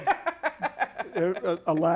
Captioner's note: laughter